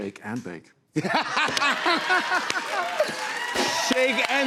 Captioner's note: laughter